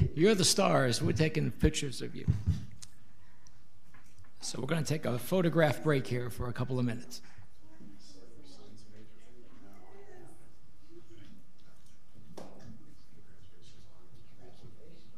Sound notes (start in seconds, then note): 9.0 people conversing